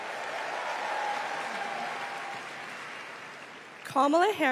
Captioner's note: applause